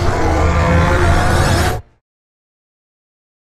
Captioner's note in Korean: 울부짖음